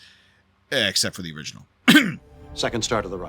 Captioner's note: cough